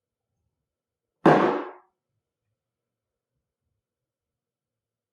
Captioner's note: glass thumps on table